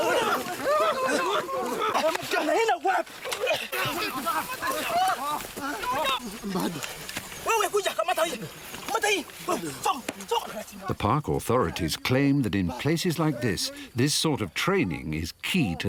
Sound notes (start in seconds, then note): 7.1 man shouting in a foreign language